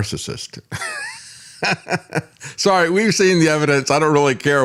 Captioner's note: laughs